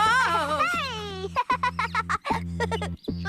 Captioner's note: giggling